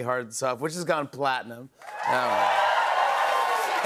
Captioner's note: cheers and applause